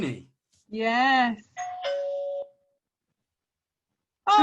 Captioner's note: doorbell sound